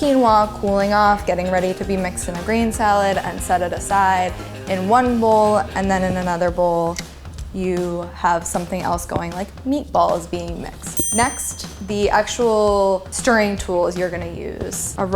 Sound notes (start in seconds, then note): 10.9 ding